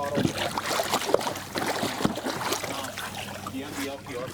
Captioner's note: water splashing